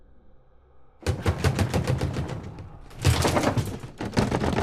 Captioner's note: fist thumping